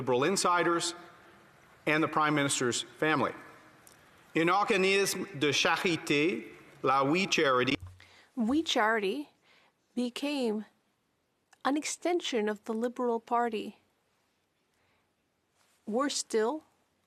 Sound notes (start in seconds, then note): 10.7 speaking French